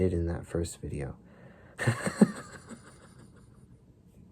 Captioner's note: laughter